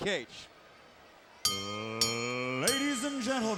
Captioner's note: bell ringing